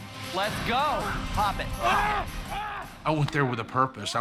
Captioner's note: grunting